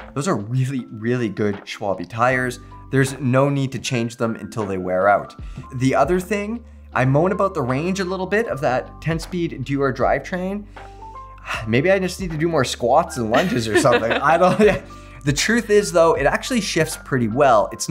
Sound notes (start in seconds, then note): 11.5 sighs